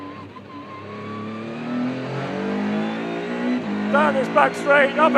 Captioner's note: car engine roaring